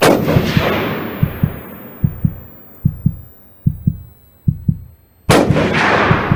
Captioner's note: gunshot; heartbeat; gunshot